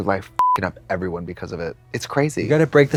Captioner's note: beep